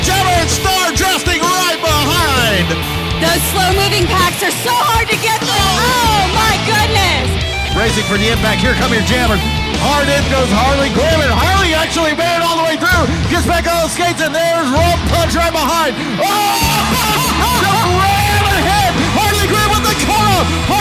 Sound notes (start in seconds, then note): 16.7 host giggles